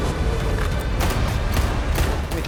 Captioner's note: shooting